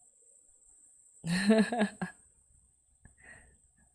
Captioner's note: laughs